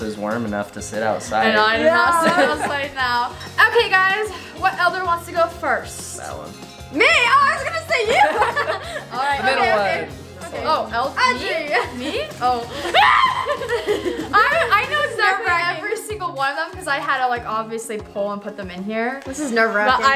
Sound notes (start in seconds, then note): 7.9 laughing; 12.6 laugh; 12.8 scream